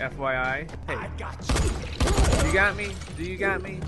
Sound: shooting

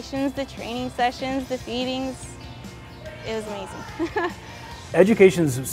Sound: laughter

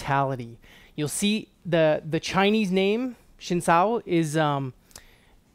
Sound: speaking in foreign language

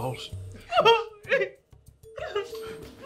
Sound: sobbing

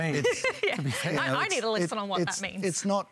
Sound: laughs

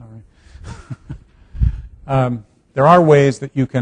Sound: laughing

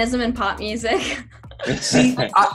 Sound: laughing

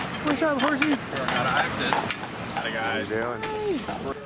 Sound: horse clopping

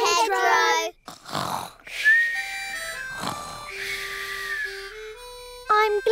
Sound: all snoring

